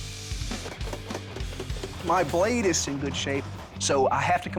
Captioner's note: voice-over